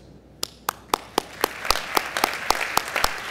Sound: applause

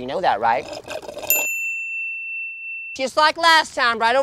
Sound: drink slurps; bell dings

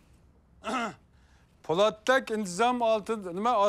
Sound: clears throat

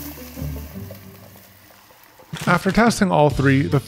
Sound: nitrogen bubbling

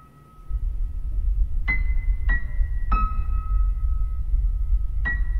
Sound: ominous rumbling starts over the music

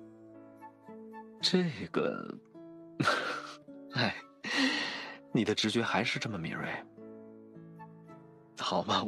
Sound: sigh

